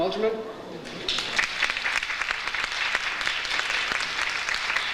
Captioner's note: audience applauds